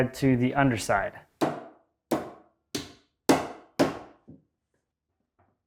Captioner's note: hammer banging